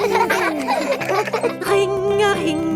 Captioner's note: giggling